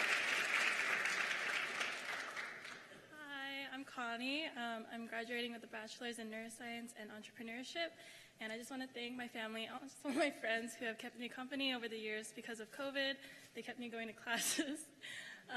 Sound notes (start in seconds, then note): 2.3 cheers and applause